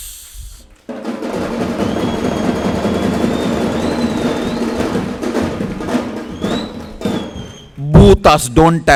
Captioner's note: celebration happening